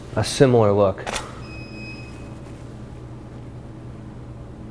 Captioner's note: shutter clicks